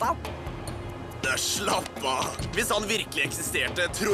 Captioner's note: chuckles